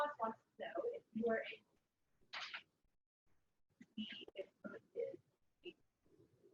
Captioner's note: audio drops